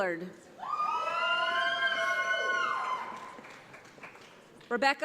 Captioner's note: audience applauds